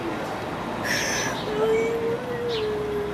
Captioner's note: crying